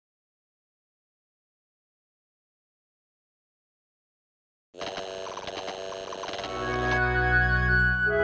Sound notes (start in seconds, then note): 4.8 television buzzing